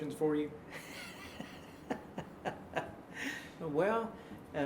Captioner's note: laughing